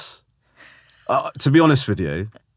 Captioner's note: laughing